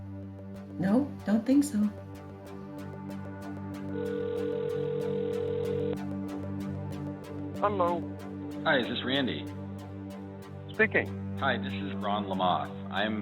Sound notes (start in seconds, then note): 2.9 soft expectant music; 3.9 phone ringing